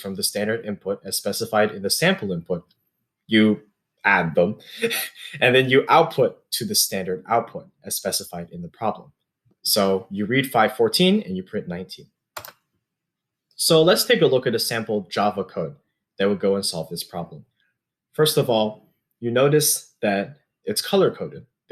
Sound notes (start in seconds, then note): 4.6 chuckles